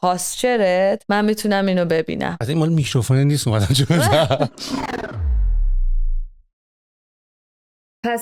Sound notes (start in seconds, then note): 3.6 laughter